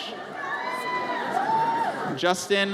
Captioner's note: audience cheers